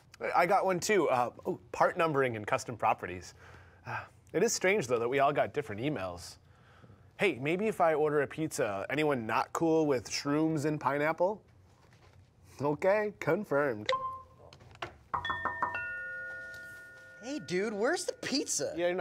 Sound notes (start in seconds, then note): 13.8 phone beeping; 15.2 bell ringing